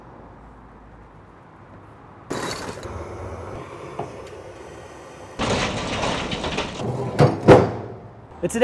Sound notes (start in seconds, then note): 2.3 flame hisses; 2.3 charcoals thud; 5.4 charcoals thud; 5.4 grill cover clacks